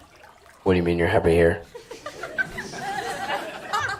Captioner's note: audience laughs